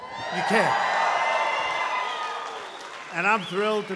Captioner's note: applause